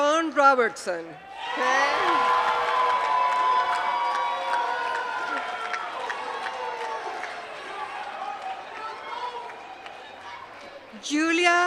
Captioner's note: applause